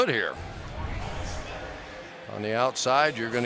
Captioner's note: pa announcement